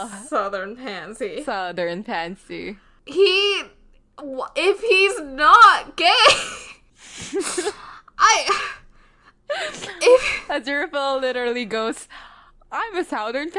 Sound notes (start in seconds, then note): 2.8 laughs; 5.5 laughing